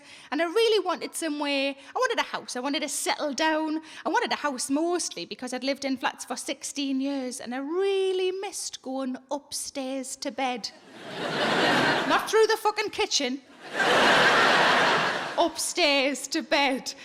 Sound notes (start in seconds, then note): 10.9 audience laughing; 13.6 audience laughing